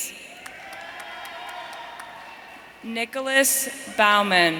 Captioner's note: audience cheering